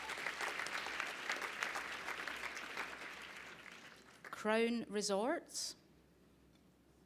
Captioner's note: applause